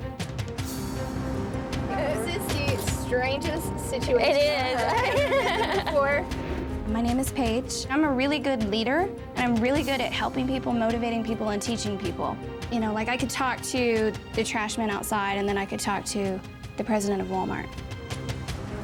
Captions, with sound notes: - Good. - I trust you slept pretty well considering you're sticking around a little bit longer? - Yeah. - Yeah? All right, well don't get too comfortable. (daters laughing) Things are about to get a little bit more complicated. (dramatic music) The good news is that the dating starts today, the bad news is only eight of you will be going.